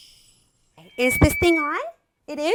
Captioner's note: microphone feedback